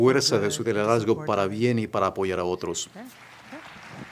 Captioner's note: applause